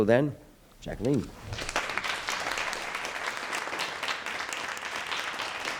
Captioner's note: audience applauding